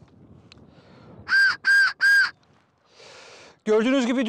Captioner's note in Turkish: Tiz ve yüksek düdük sesi